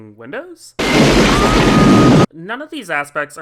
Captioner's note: x-ploding sfx